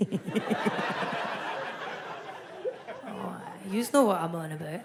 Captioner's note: audience laughs